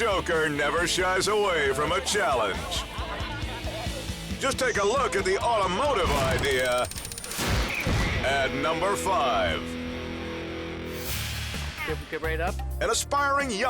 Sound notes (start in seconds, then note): 6.2 countdown squeals; 7.0 rock music; 11.1 transition whooshes